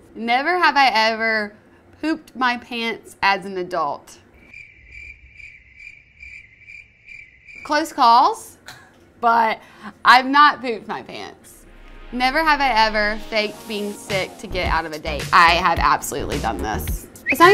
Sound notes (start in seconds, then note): 4.4 chirping crickets; 17.2 whistling